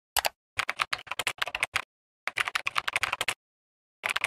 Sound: keyboard clicking

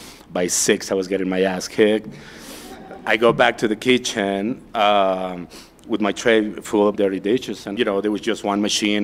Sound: laughter

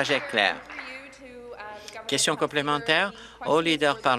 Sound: applause

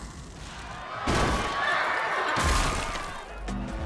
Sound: door crashes; glass shatters

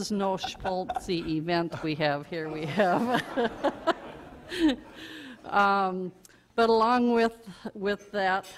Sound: audience laughter

